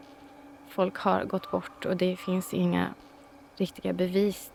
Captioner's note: A crow caws